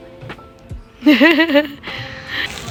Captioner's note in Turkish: Kahkaha